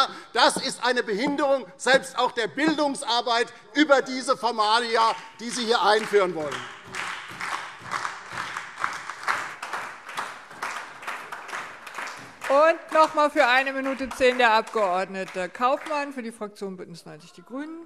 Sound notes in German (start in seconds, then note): 4.8 Beifall